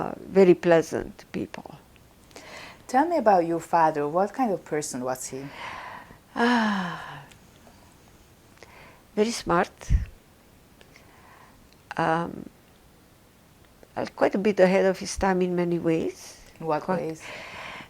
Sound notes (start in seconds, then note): 6.3 sighing